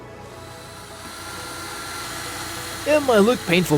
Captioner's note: drill whirring